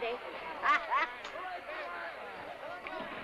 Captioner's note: laughs